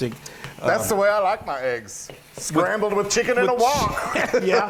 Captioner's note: laugh